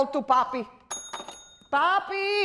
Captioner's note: bell Ringing